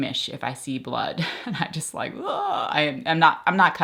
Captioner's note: groans